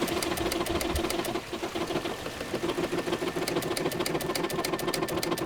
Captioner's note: sewing machine whirring